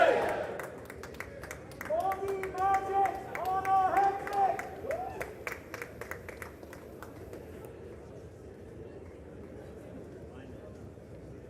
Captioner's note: crowd chanting